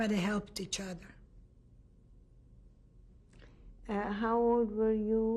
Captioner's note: pauses for 3 seconds